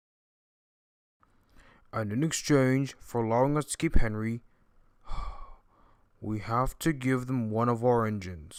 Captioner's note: sigh